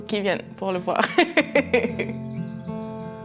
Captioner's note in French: rire